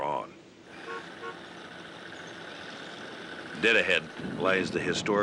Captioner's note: car horn honking